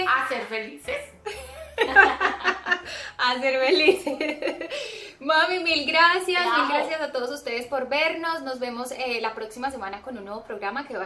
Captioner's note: laughs